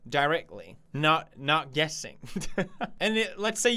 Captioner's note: laugh